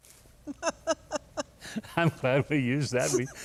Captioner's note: laughs